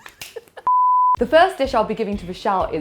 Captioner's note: snapping sound; beep